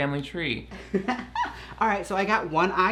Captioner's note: laughs